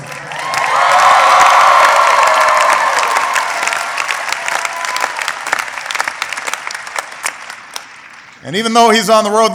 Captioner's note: applause